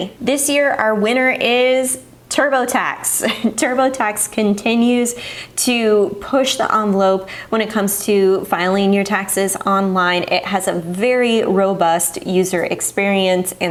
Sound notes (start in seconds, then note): 3.2 chuckles